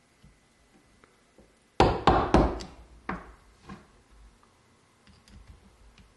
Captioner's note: hammer pounding